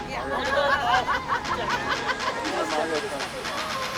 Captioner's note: all laugh